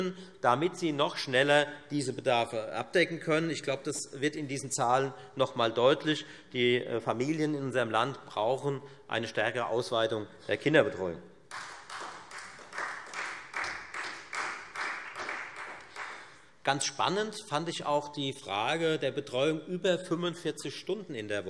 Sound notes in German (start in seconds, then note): 11.4 Beifall Freie Demokraten